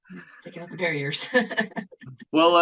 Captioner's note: laughs